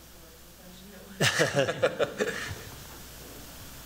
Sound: laughter

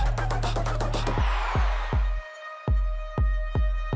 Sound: crowd cheering; upbeat music and siren

